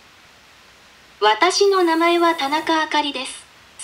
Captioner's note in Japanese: 合成音声